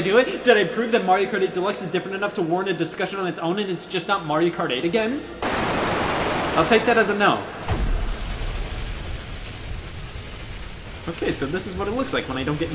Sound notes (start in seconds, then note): 5.4 static; 11.3 space noises